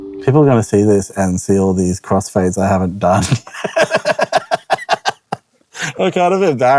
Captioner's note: laughs